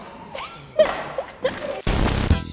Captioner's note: laughing; upbeat electronic music